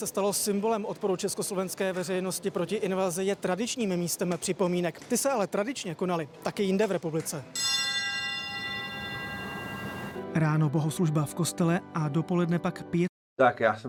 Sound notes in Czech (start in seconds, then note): 7.5 zvon